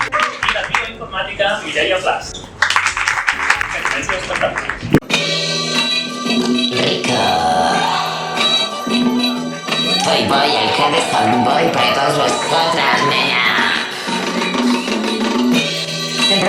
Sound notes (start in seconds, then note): 0.0 applause; 2.2 applause; 6.9 autotune